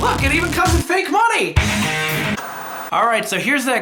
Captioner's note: upbeat music; static buzzing